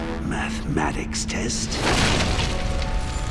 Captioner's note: thudding